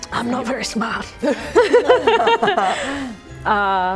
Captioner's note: laughing